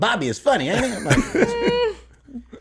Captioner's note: laughs